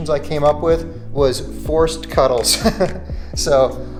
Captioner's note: laughs